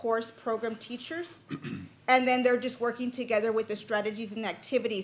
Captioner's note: clears throat